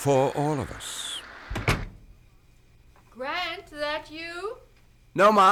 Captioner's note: door closes